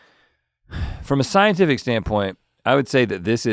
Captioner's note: sighs